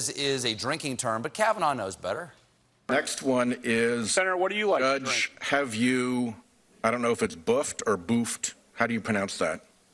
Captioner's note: none